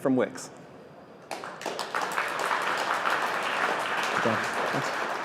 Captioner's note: applause